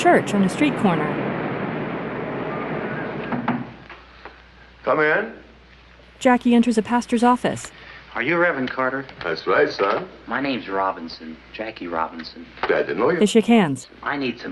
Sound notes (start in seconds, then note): 3.3 knocking at door